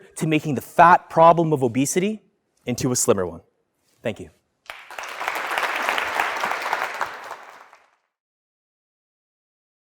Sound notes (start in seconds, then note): 4.6 applause